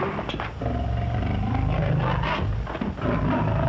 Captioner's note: growling